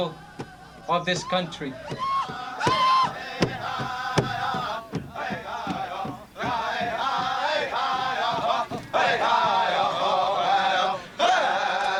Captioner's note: chanting